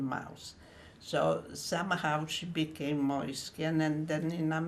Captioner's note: german